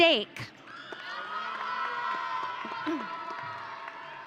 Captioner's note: audience cheering